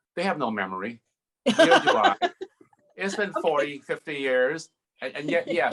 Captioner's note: laughs